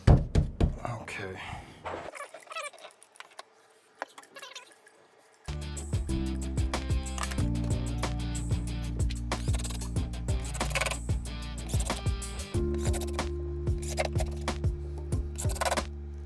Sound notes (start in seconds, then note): 2.4 tape fast forwarding; 6.0 gentle music; 9.8 drill whirring